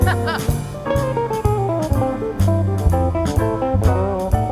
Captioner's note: laughs; swanky jazz music continues; swanky jazz music continues